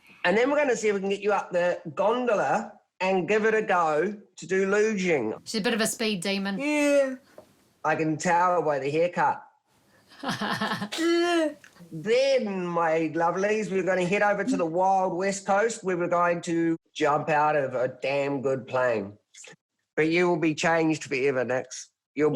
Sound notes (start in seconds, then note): 10.2 both laugh